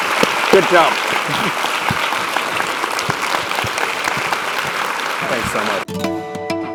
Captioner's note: applause